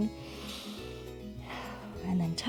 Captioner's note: inhales and exhales